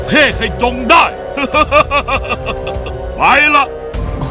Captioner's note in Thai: หัวเราะ